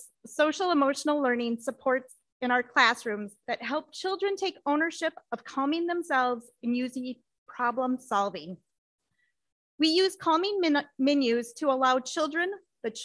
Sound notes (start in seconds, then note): none